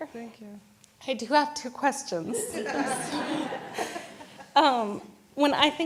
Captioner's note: audience laughs